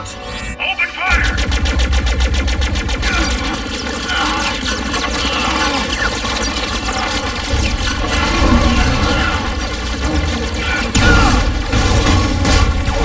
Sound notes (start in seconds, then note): 1.4 blasting; 4.1 wincing